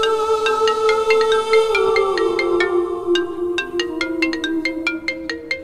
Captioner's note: Phone ringing